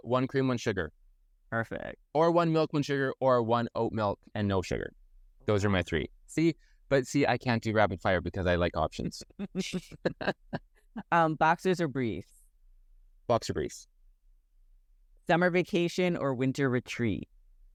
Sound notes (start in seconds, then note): 9.3 laughs